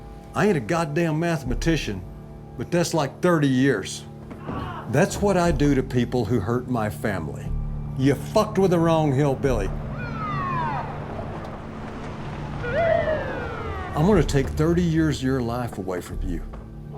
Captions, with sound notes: I ain't a goddamn mathematician, but that's, like, 30 years. [MUFFLED SCREAM] That's what I do to people who hurt my family. You fucked with the wrong hillbilly. [POLICE SIRENS] I'm going to take 30 years of your life away from you.